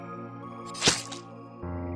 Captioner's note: stab